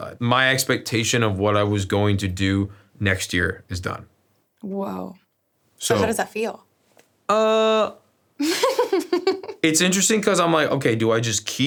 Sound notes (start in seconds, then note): 8.4 giggles